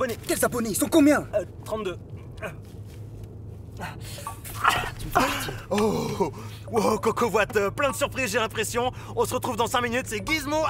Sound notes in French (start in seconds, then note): 3.8 son de soulagement